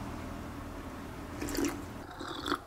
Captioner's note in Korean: 후르륵